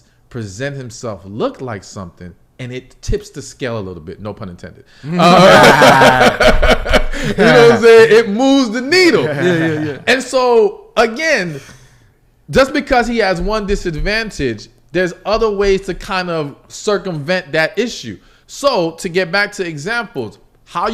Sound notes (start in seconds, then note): 5.1 laughs